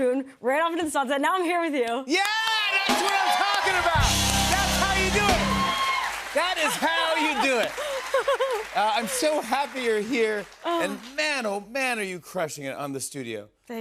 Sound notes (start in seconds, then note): 6.4 laughs